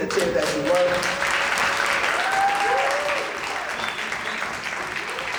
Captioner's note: cheering